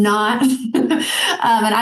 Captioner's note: laughing